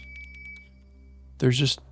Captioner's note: beeping